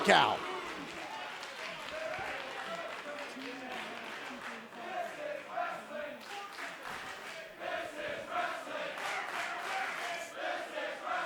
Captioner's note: crowd cheering